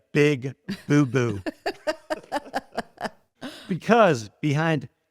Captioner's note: both laughing